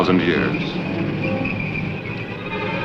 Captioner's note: screeching; dramatic music